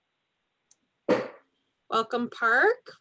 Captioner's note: object slams down